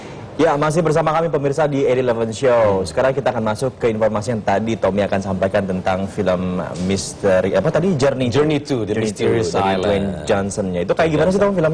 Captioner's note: non-english speech